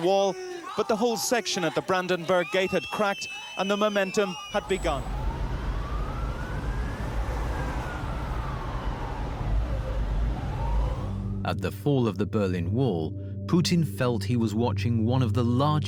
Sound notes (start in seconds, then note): 4.6 traffic rumbles; 5.4 sirens wail